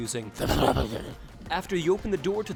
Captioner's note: DEMONIC VOICE: *incoherent gibberish